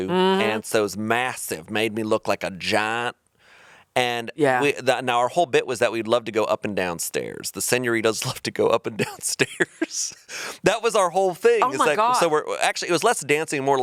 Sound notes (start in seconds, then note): 9.0 chuckling